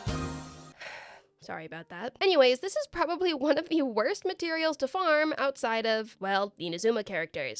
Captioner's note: sighs